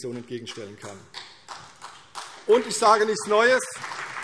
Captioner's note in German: Beifall CDU und vereinzelt BÜNDNIS 90/DIE GRÜNEN